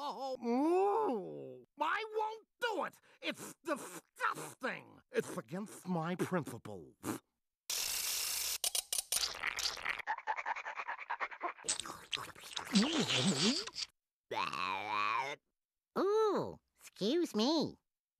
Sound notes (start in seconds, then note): 0.0 crying; 0.3 muffled groaning; 10.4 panting; 11.6 Tweety salivating; 14.2 belching